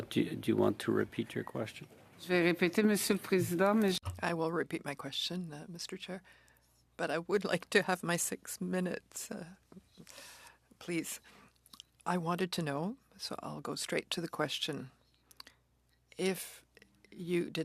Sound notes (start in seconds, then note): 9.9 speaking French